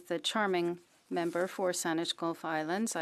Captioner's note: speaking French